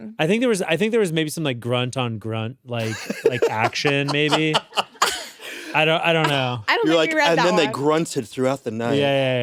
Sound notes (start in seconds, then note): 2.8 laughs